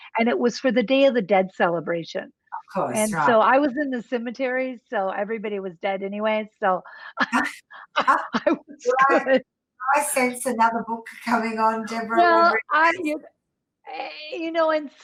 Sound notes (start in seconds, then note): 7.9 laughing